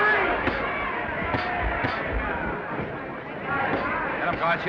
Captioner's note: crown cheering; punches thudding